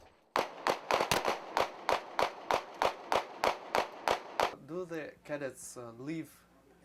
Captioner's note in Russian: звуки выстрелов